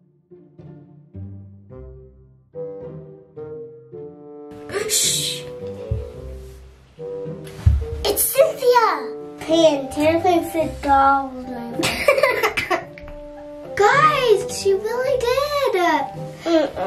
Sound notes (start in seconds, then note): 0.2 soft mischievous music; 11.8 snickering